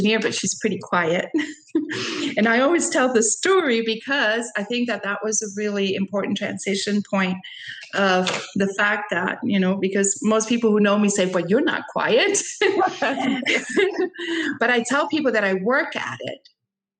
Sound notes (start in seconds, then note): 1.4 chuckles; 12.4 laughing